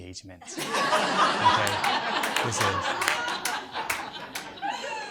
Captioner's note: audience laughs